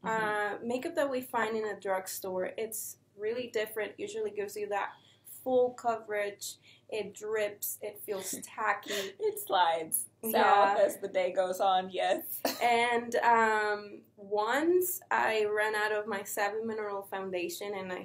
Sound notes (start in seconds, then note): 9.7 chuckles